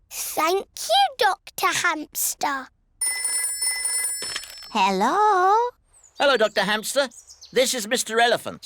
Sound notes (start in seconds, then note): 3.0 phone rings